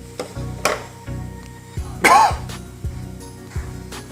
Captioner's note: cough